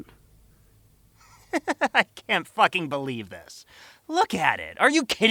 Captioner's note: chuckling maliciously